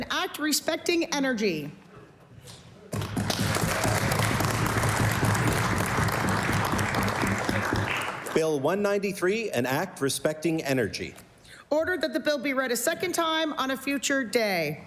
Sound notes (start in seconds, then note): 6.9 applause